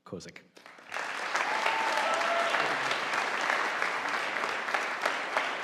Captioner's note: audience applauding